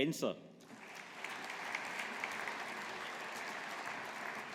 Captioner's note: audience applauding